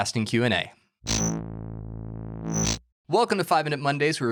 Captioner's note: buzzing